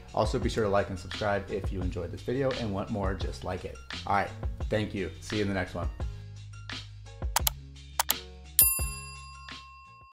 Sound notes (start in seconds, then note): 7.3 upbeat music; 7.3 mouse clicking; 8.6 bell dinging